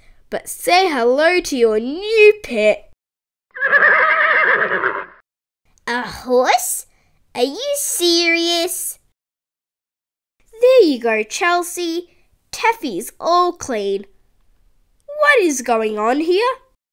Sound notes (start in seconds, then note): 3.5 neigh